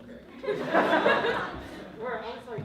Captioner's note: laughter